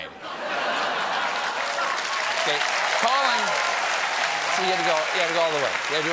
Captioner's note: cheers and applause